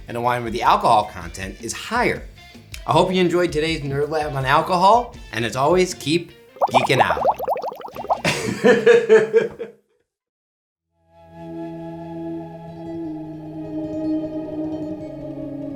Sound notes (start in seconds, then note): 6.6 bubbly noise; 8.2 laughs